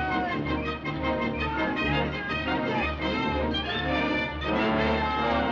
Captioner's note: Newspaper Boy Continues Shouting